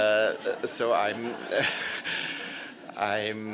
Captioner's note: laughter